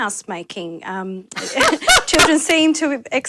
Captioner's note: laughter